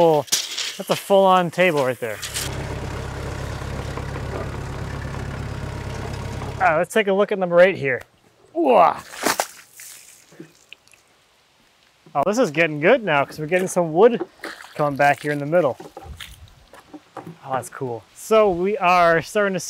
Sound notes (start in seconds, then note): 2.1 engine runs; 9.0 water splashes